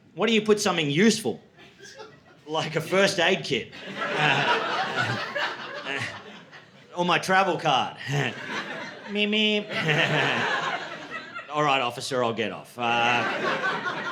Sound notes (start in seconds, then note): 8.0 laughter